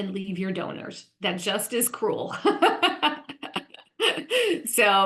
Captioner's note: laughs